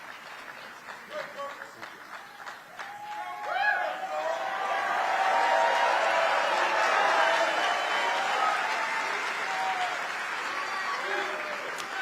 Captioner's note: applause